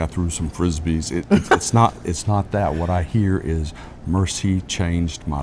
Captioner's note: laugh